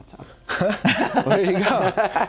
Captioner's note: laughing